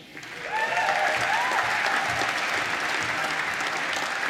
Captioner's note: applause